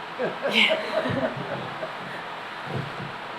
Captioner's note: laughter